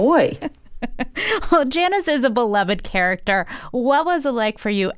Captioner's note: laughter